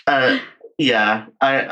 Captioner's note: laughs